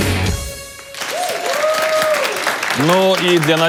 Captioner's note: applause